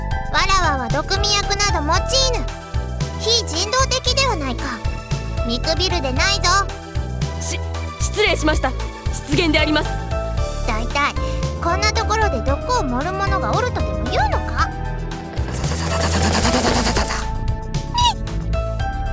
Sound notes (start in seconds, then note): 18.2 surprised